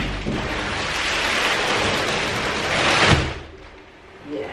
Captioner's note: plastic rustles